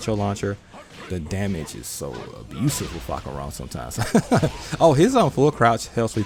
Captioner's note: laughs